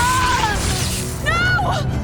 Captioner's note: faints from the pain; pained screams filled with visceral pain